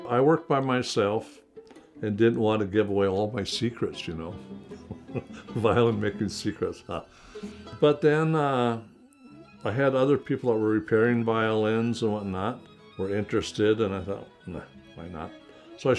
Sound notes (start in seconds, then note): 4.6 laughing